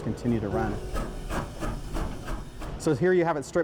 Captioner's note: train chuffing